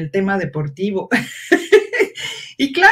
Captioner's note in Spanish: ríe